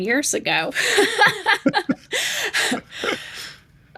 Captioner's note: laughing